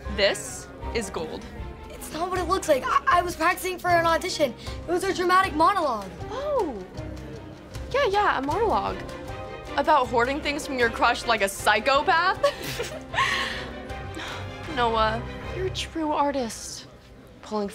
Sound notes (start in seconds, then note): 12.4 cheerleaders laughing